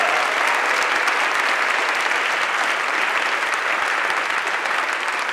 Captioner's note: applause